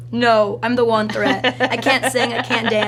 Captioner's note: laughs